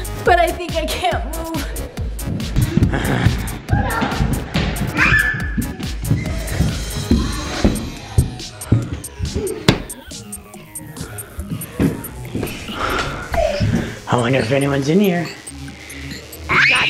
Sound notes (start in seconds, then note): 2.7 zombie growling; 6.1 heavy footsteps